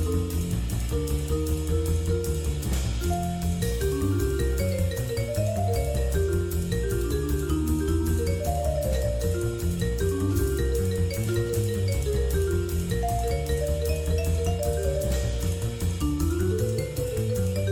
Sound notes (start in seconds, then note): none